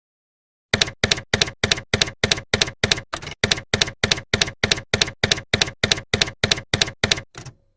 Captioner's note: typewriter keys clacking